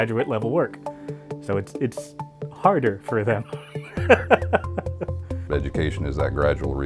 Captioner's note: laughs